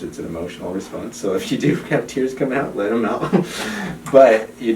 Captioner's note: chuckles